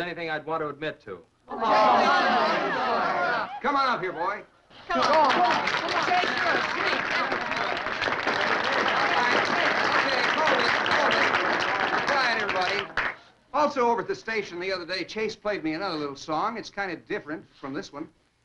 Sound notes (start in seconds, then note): 1.5 all chattering; 4.7 all applauding